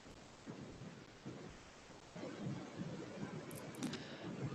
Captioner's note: white noise hissing